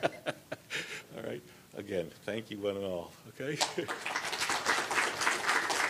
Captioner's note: laughter; applause